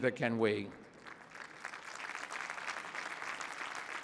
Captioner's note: applause